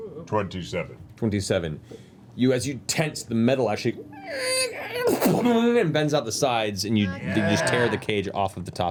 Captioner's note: creaks